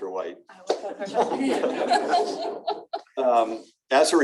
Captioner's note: laughter